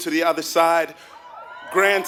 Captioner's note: applause